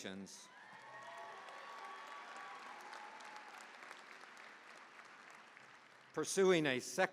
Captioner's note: cheering, applause